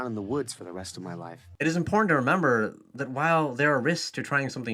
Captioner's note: voiceover